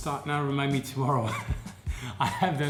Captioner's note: laughing